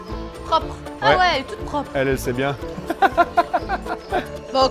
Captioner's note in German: Er lacht